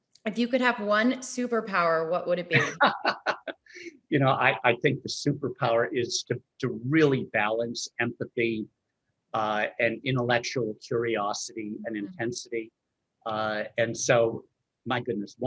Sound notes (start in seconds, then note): 2.5 laughs